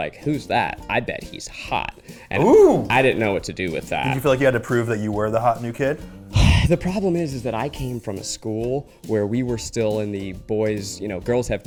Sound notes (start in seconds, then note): 2.3 exclaiming; 6.3 exhaling